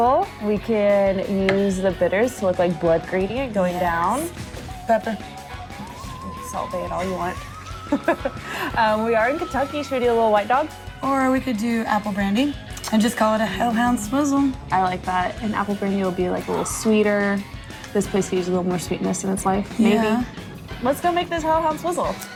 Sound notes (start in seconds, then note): 7.8 laughs